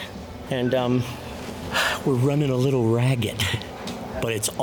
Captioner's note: sighs